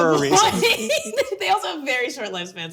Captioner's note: laughing